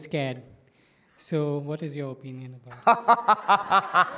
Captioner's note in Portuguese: risadas